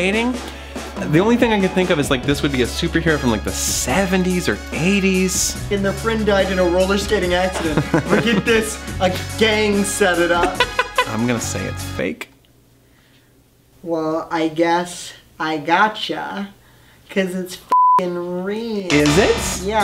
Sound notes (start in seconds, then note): 7.2 laughs; 10.3 laughs again